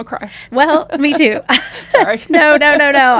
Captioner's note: laughs